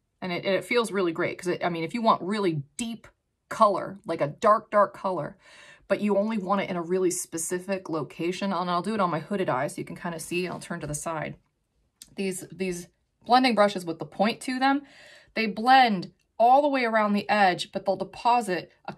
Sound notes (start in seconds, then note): none